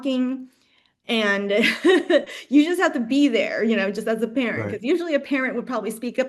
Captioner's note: laughs